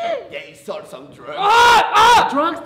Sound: anwar screaming

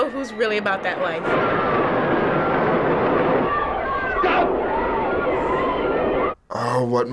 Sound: passengers screaming

